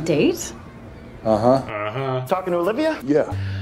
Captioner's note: mocks him